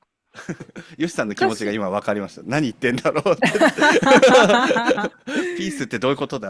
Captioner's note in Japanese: 笑い